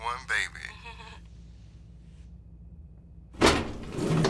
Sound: giggles

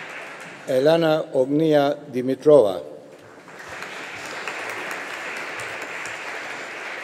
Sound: audience applauding

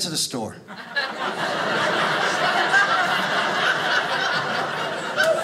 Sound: audience laughing

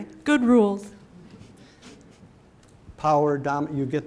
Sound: audience laughing

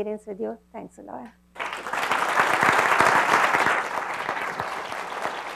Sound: clapping

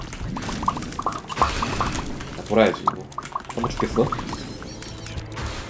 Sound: massive pop sounds

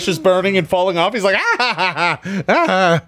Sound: laughing

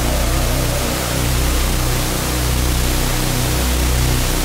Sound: loud growling sound

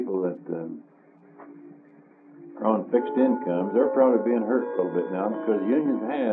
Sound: clock chimes

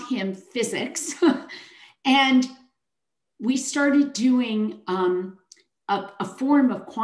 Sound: chuckles

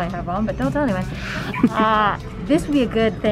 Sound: chuckles

